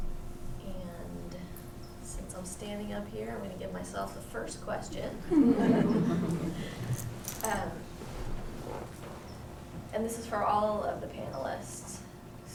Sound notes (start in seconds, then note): 5.2 laughter